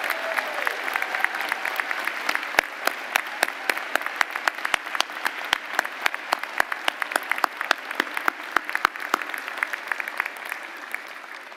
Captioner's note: applause